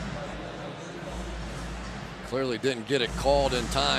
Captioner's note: pa announcement